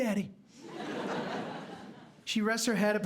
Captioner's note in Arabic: ضحك